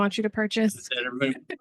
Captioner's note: chuckles